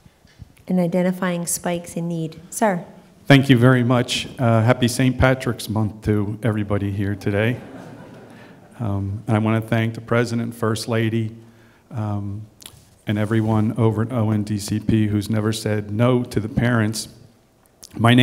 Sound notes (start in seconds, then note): 7.4 laughter